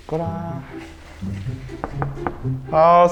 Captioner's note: knock knock knock